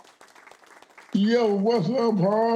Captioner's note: audience clapping